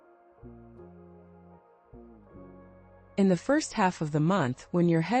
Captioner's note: pause